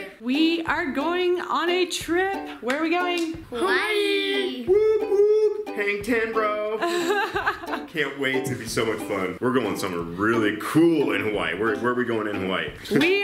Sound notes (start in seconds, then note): 6.8 laughs